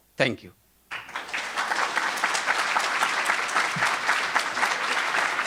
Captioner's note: audience applauding